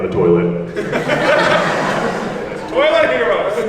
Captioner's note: everyone laughs